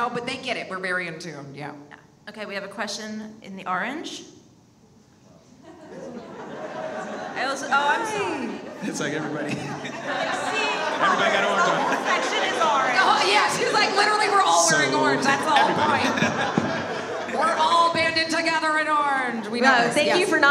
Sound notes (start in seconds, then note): 5.6 audience laughs; 9.5 audience makes noise